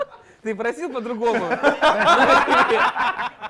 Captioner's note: laughter